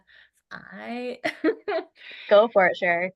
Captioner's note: laughs